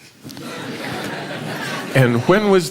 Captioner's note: laughter